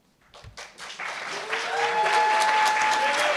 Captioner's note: cheers